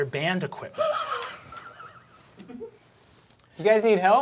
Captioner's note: cast laughing